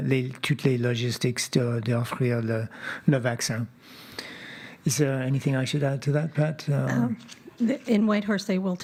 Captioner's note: speaking French